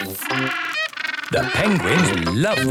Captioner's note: honking